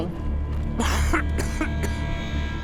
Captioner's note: rufus coughs